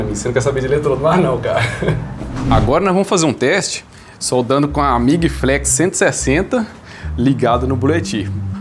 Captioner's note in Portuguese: risadas